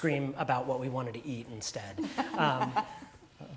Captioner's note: laugh